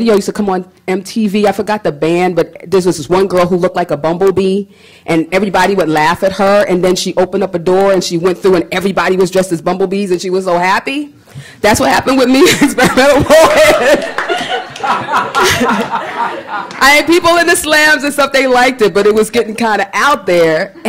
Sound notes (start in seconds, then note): 15.1 laughter